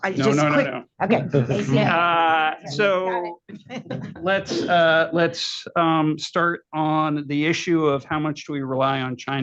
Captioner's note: laughter